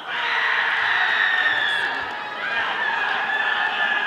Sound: audience applauding

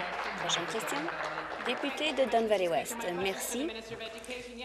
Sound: applause

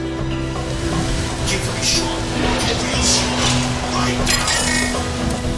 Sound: robot voice

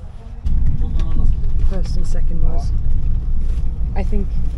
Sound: background convo

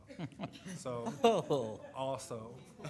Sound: laughing

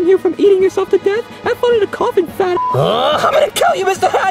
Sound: beep; groaning

